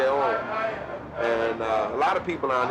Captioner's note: vendor calling out